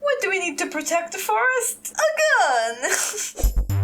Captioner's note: chuckle